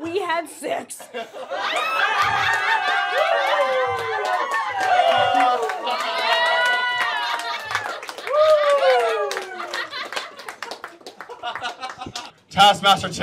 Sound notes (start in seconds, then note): 1.5 cheers, applause